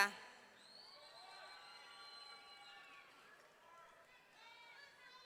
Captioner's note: audience cheering